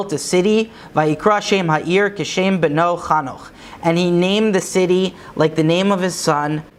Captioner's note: Hebrew